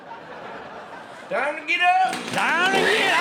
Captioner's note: boy screaming; sow roaring